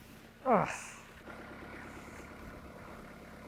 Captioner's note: groans